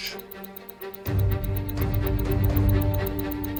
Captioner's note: watch ticking